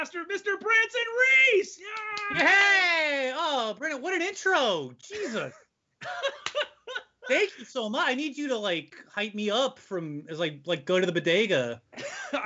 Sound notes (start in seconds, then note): 1.9 cheering; 6.0 laughing